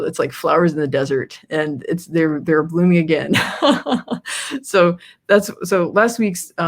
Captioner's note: laughs